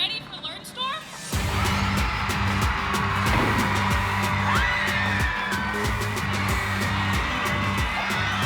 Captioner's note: cheering